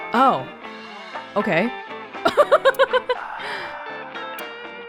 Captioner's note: chuckles